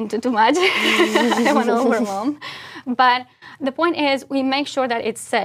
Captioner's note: laugh